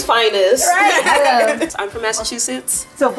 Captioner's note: laughing